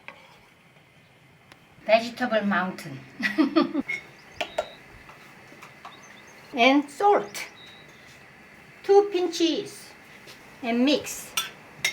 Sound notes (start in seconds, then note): 3.2 laughs; 11.2 spoon banging